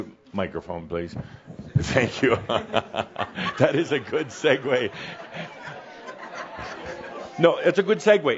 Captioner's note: Adamus chuckles and some audience laughter